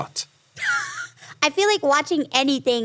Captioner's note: Ironmouse laughs